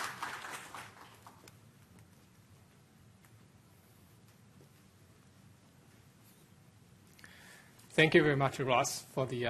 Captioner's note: applause